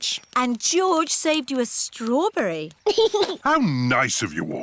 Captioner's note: giggles